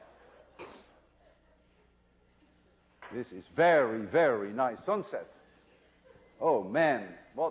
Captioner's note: laughter